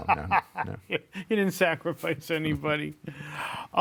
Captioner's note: laughs